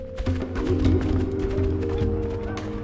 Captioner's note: hooves shuffle dirt